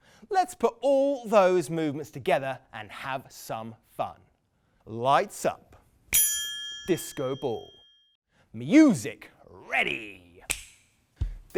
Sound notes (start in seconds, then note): 6.1 ping; 10.5 click